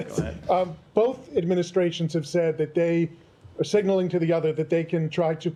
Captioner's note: laughter